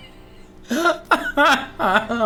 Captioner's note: laughs